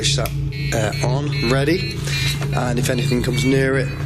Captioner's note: beeping